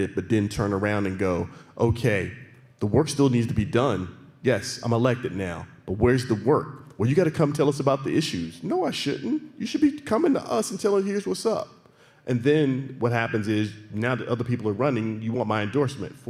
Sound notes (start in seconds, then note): none